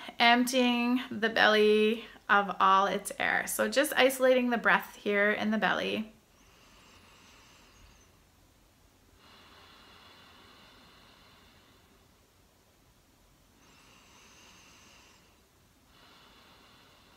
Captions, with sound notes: emptying the belly of all its air. So, just isolating the breath here in the belly. (breathing deeply)